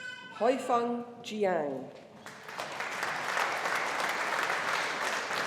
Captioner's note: audience applauding